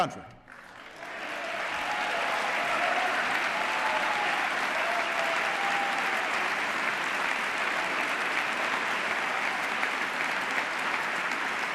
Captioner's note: applause